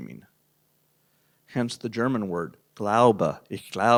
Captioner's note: speaking german